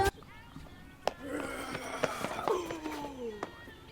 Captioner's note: Tommy growling